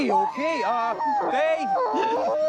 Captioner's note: wailing